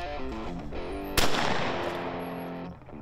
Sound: gunshot

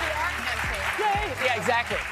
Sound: applause

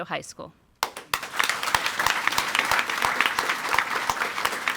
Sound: audience applauding

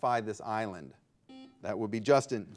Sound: buzzer beeping

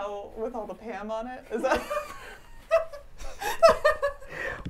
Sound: laughs

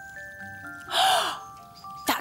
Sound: gasp!

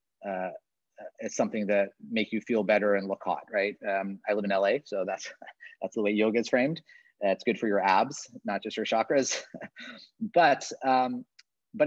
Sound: chuckles

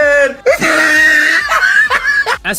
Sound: wheezing Laugh

